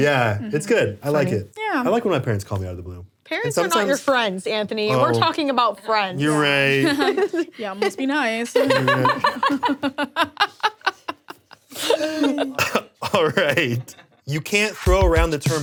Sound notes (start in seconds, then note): 9.1 laughs